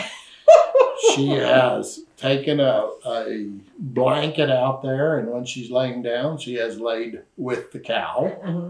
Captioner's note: laughter